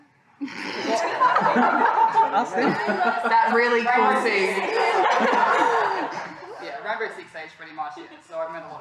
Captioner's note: laughter